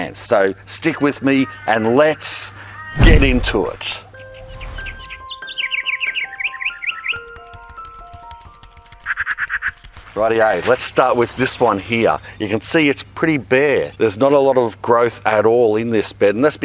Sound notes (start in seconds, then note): 4.6 birds chirping; 4.6 bright music